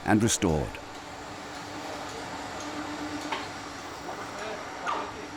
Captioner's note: people chattering